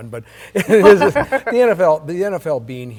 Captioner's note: laughter